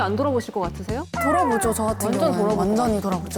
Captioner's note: so confusing sound effect